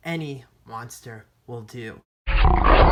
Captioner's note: monster growling